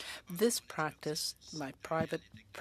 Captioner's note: speaking French